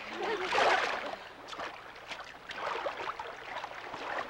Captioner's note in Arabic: حفيف الماء